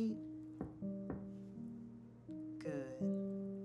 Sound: knocks

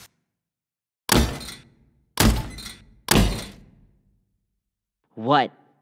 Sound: pounding and squeaking

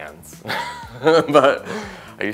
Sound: laughs

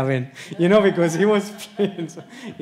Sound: audience laughs; laughs

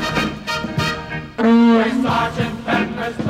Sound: horn honking

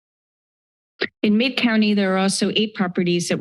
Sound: click sound

